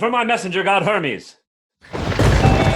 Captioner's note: thunder